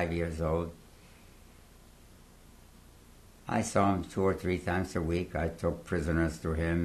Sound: pauses for 3 seconds

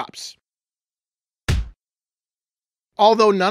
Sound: punch sound

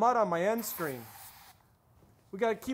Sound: aerosol can sprays

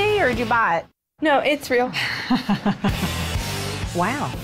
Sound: laughter

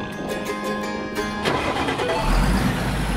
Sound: engine starting

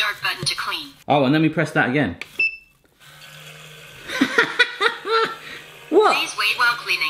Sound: beep

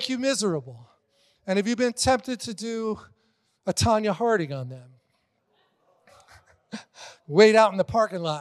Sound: congregation laughing

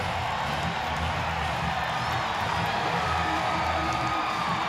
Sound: crowd cheers

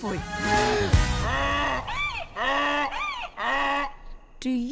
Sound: hee-haw

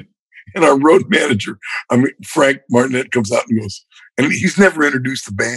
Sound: laughter

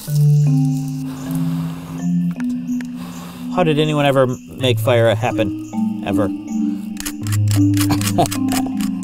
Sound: blows; laughs

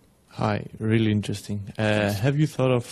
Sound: voiceover

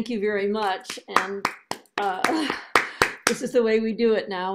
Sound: applause

